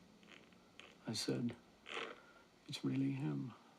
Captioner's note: sniffles